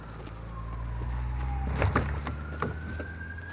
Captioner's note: sirens in distance